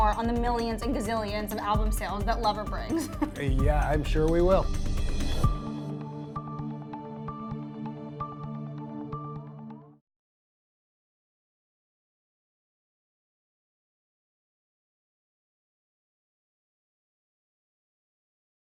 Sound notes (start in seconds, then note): 3.0 laughs loudly; 4.7 gentle electronic music